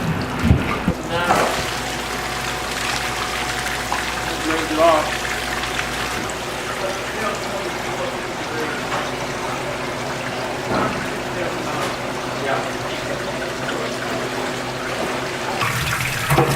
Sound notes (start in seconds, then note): 1.8 water draining; 6.0 water running; 6.0 workers conversing; 13.6 water running